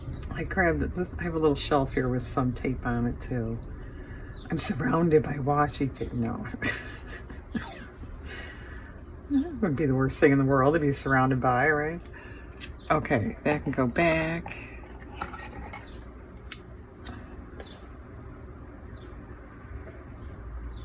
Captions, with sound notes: I grabbed this. I have a little shelf here with some tape on it too. I'm surrounded by washi tape. No. (laughs) It wouldn't be the worst thing in the world to be surrounded by, right? Okay, that can go back.